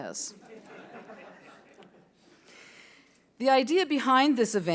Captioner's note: audience laughing